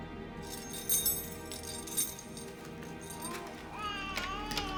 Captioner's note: clinking